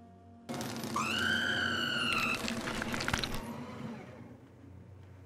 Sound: shredder whirring

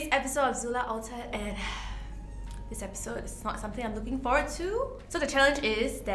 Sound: sighs

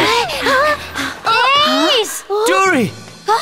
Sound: all pant

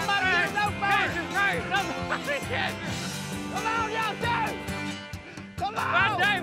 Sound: yelling, laughing

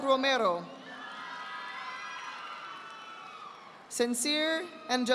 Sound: audience applauding

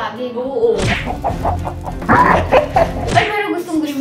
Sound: evil laugh

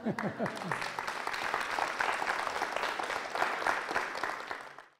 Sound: applause

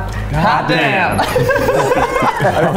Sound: laugh

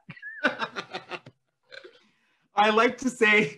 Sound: laughing

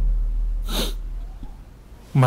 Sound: inhales

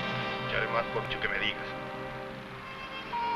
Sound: dramatic music; people chattering; somber music

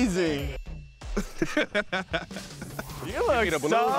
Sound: laughing

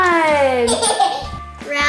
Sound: laughing

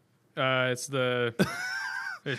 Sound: laughter

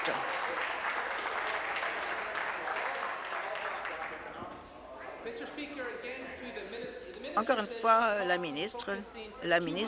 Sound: applause

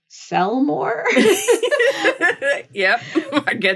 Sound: laughing

